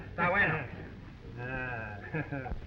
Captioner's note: Pablo speaking in foreign language